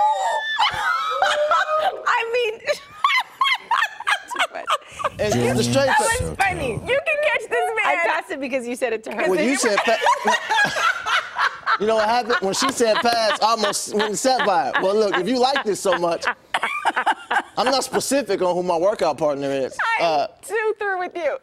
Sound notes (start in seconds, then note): 9.4 laughter